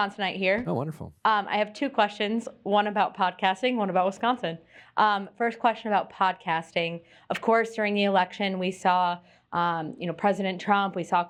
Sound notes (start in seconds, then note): none